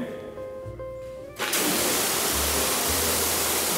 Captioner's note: water whooshing intensely